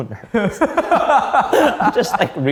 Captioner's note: men laughing